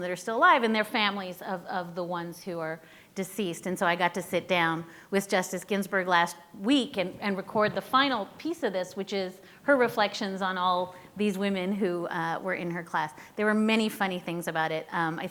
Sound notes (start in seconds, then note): none